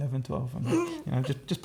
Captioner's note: laughter